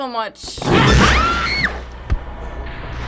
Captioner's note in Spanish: Gruñidos; Rugido de forma brusca; gritos; música misteriosa